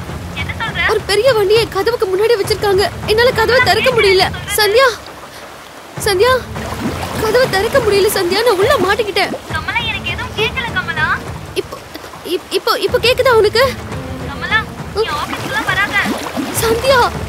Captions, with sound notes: Kamala, don’t come to the office today. Sandhya! Sandhya! (Baby crying) (Suspense music)